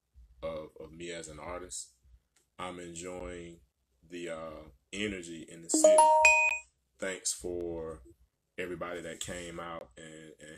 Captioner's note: alarm goes off